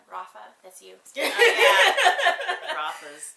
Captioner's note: laughs